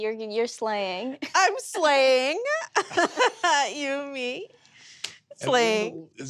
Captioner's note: laughs